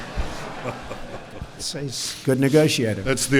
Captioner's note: laughter